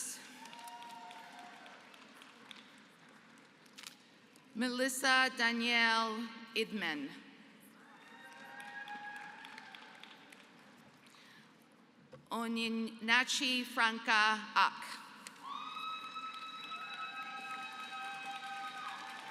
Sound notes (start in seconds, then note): 0.0 applause; 7.8 applause; 15.4 applause